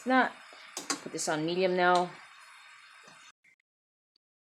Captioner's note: oil sizzling